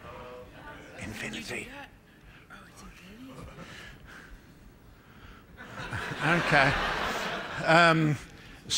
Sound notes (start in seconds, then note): 5.6 laughter